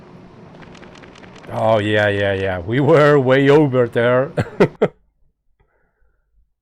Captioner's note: laughs